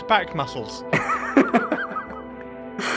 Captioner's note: laughs